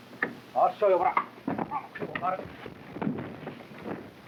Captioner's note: men grunting